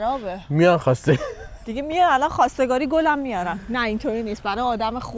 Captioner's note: laughs